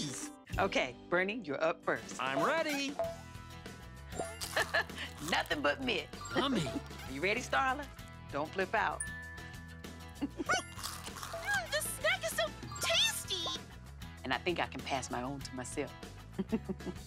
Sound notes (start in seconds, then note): 4.4 chuckles; 10.1 chuckles